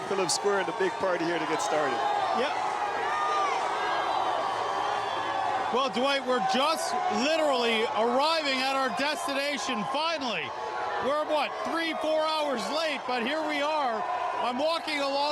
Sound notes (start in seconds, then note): 9.4 yelling; 10.4 cheering